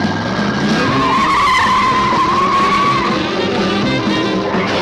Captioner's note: engine revving; tires screeching; suspenseful music